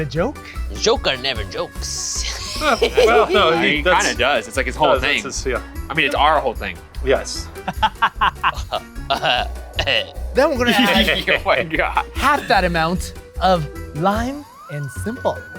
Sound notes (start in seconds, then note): 2.1 laughs; 7.6 laughs